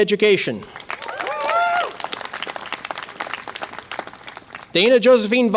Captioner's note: audience applause and cheer